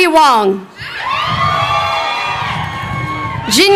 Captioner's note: crowd cheering